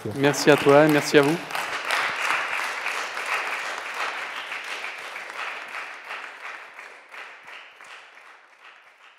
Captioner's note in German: applaus